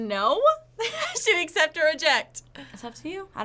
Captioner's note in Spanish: Risas